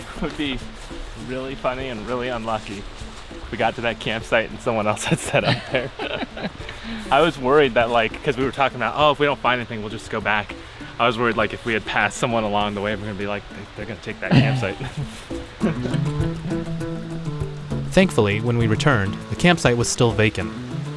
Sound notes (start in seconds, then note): 6.2 laughs